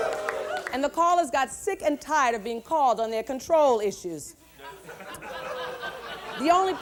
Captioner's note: laughter